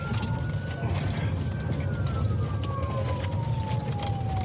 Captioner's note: siren wailing